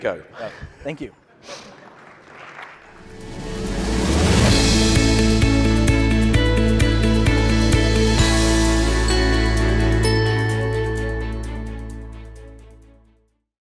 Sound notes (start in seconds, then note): 1.6 audience applauding; 3.5 upbeat music